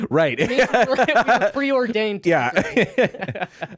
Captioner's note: laughing